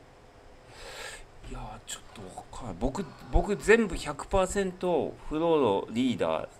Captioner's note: snort